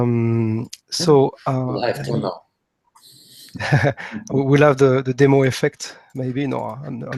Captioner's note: laugh